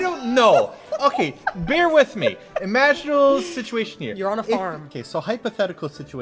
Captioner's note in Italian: ride